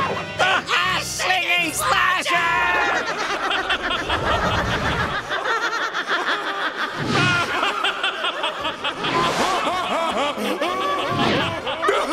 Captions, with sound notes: The hash slinging slasher! [laughing] [guffawing]